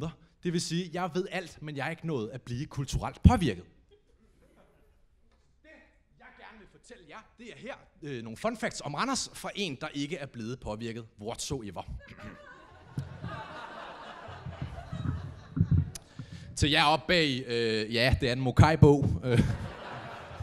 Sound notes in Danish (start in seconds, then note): 12.0 publikum griner